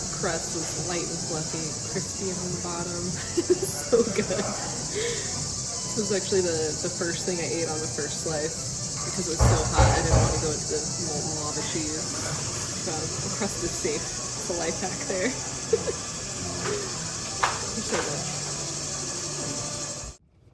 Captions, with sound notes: Crust was light and fluffy. Crispy on the bottom. (laughing) Was so Good. It was actually the first thing I ate on the first slice. Because it was so hot I didn't want to go into the Molton Lava cheese. The crust is safe. It's a life hack there. (giggle) Was so good.